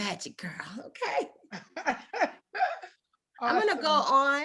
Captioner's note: delighted laugh